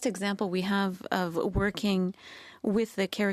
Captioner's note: speaking French